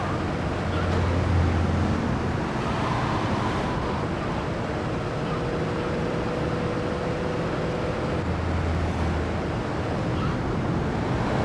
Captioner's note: engine roaring